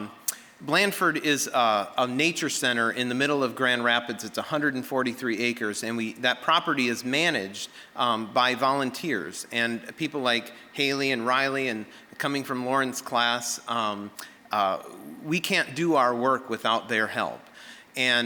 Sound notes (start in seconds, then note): none